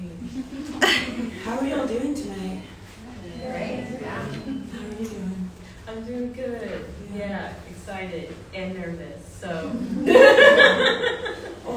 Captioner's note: laughter